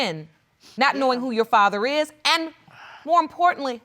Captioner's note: sighs